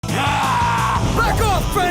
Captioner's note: yelling